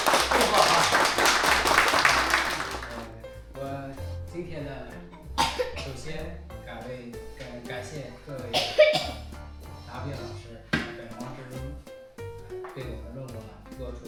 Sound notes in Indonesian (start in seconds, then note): 1.7 tepuk tangan